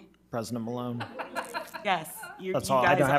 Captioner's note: members laughing